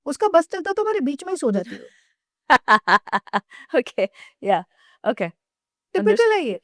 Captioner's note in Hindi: हंसी